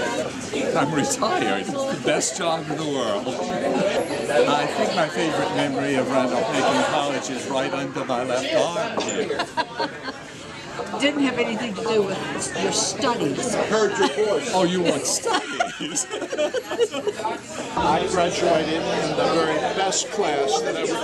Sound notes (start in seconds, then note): 9.3 laughs; 14.6 laughs